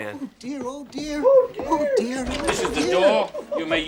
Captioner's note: squeaks